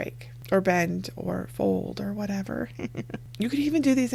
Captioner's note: chuckles